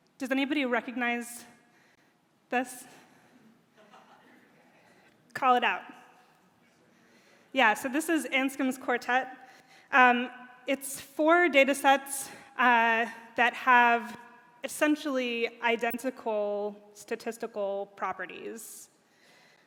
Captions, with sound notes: Does anybody recognize this? [audience member laughs] Call it out. Yeah, so this is Anscombe's quartet. It's four data sets that have, essentially, identical statistical properties.